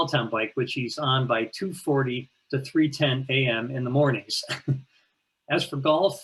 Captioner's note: laughs